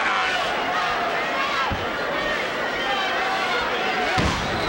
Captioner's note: crowd clamoring